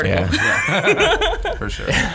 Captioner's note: laughing